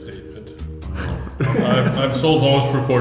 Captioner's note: laughing